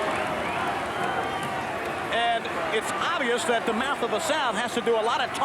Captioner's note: applause